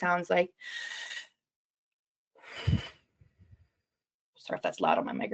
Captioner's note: slow breathing